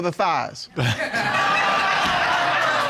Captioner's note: laughter